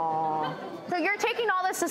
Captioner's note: audience laughs